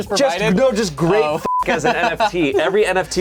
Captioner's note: beep